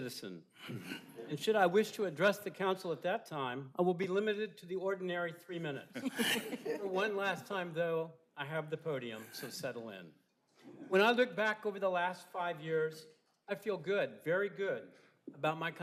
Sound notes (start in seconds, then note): 9.7 laughter